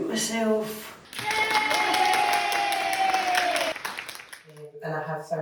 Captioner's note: group claps and cheers